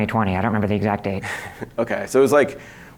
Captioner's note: chuckles